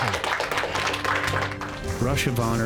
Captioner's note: clapping